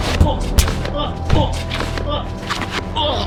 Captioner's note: keiran groans